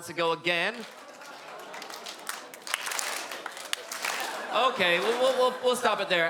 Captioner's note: hesitant clappin